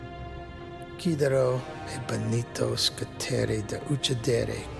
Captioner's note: speaking in Italian